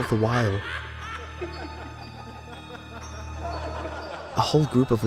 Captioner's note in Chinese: 又一陣笑聲